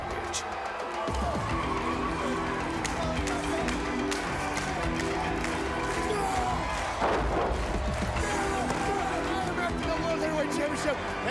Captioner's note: crowd chatter